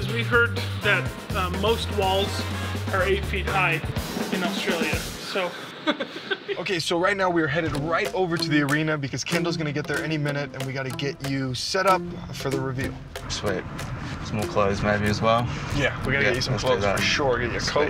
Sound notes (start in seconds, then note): 5.5 laughing